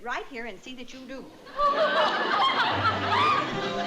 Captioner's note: audience laughing